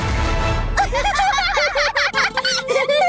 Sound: laughing

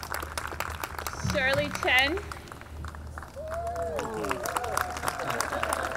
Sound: audience applauding

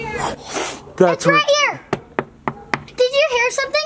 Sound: knocking

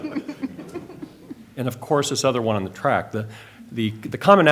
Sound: laughter

